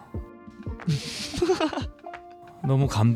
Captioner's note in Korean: 웃음